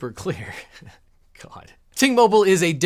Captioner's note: chuckling